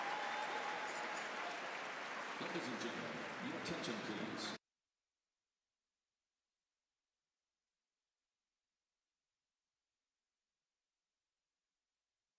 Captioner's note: applause